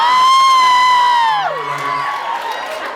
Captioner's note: screams, cheers